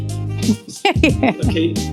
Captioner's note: laugh